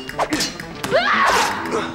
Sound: yells

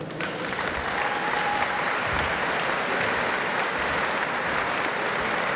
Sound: applause

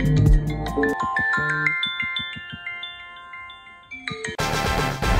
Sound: Forest app chimes

